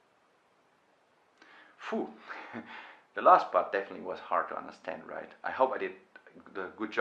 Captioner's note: exhales